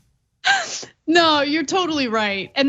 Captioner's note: laugh